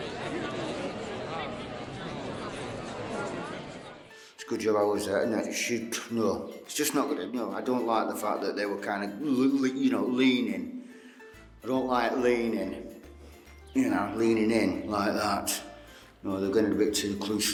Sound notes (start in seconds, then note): 0.0 crowd chatter; 5.6 mutters